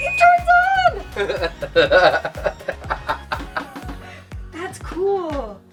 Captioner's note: laughing